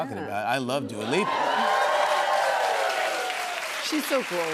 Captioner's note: cheers and applause